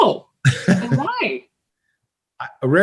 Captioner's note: laughs